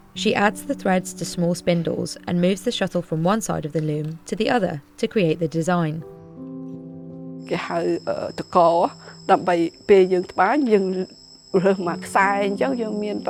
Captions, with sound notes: She adds the threads to small spindles and moves the shuttle from one side of the loom to the other to create the design. (speaking foreign language)